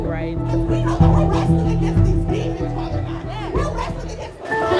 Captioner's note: woman yelling